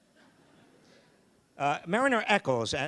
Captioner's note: audience laughing